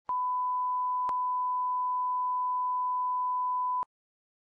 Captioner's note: loud elongated beep